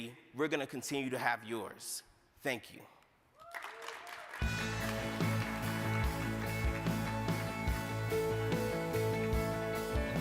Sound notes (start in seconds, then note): 3.4 crowd applauding; 4.4 bright music